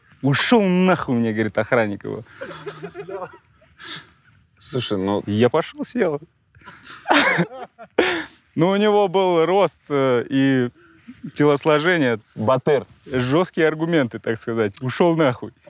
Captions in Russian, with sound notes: «Ушел нахуй», — мне говорит охранник его. — Слушай, ну-- — Я пошел, сел. (смеются) Ну у него был рост и телосложение… — Батыр! — Жесткие аргументы, так сказать: ушел нахуй.